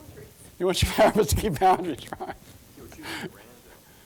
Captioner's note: laughing